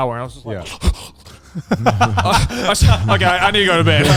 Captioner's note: sniffling